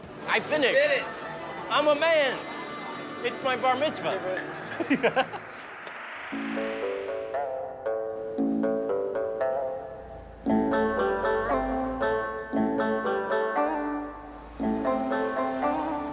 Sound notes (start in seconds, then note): 4.6 laughs